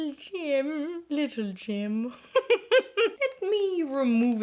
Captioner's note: laughs